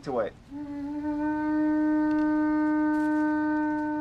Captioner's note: soft blowing sound